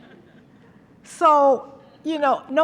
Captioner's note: laughter